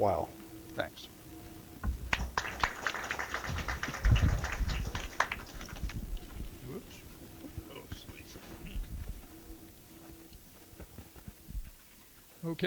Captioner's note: applause